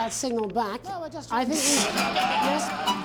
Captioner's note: snickers